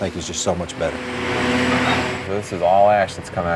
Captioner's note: rumbling